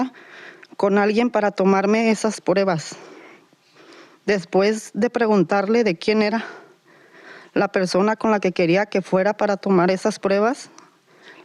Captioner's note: Spanish